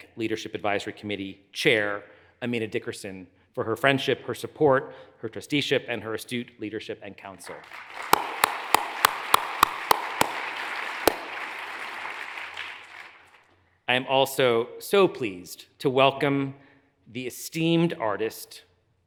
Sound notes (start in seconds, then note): 7.5 hands clapping; 7.6 audience applauds